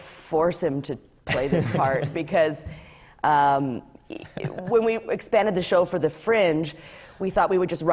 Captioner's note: laughs